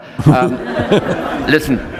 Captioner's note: laughter